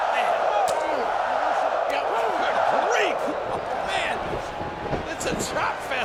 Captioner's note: wrestlers grunting continues